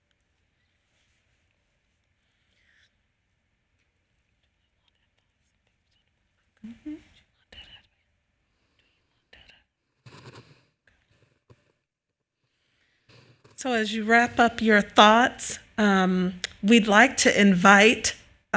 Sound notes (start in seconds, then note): 4.3 conversing faintly